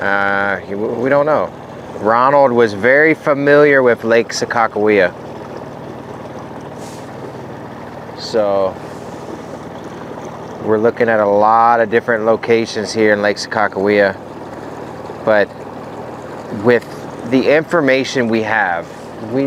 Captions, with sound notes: We don't know. Ronald was very familiar with Lake Sakakawea. (motor rumbling) (water sloshing) So we're looking at a lot of different locations here in Lake Sakakawea. But with the information we have,